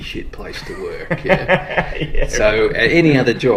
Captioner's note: laughs